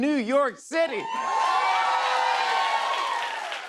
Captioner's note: cheers and applause